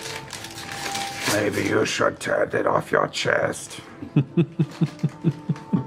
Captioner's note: in weird low voice